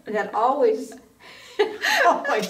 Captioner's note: both women laughing